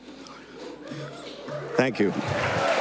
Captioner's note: applause